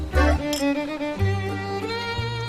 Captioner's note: clink